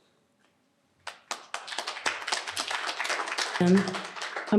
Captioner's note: applause